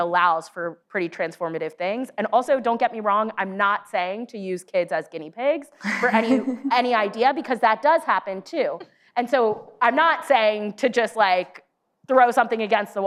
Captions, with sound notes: allows for pretty transformative things. And also, don't get me wrong, I'm not saying to use kids as guinea pigs for any- (laughs) ... any idea, because that does happen too. And so, I'm not saying to just, like, throw something against the